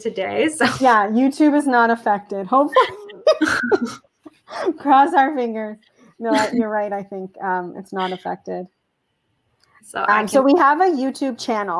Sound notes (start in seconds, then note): 4.3 chuckle